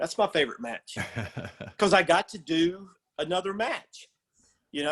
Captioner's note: laugh